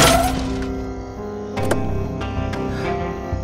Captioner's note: Car glasses shattering; Car door opens